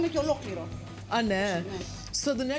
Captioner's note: speaking greek